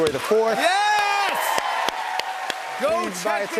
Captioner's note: cheers and applause